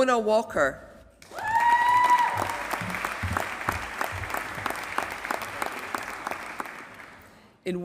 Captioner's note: applause